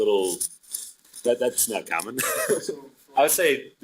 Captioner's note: laughing